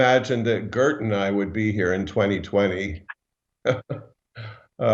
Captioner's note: chuckles